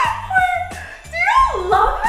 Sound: laughs

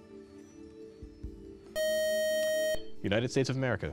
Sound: time-out buzzer

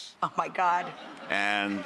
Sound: laughing

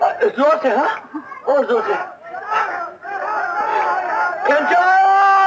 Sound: lots of shouting in the background

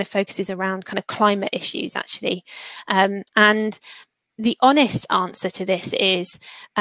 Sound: erm

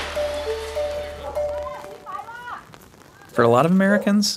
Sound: hat-wearing woman speaks in foreign language

